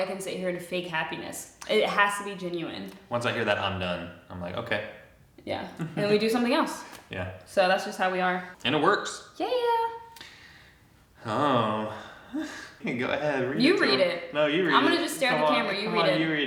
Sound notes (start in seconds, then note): 5.8 chuckling; 12.0 chuckles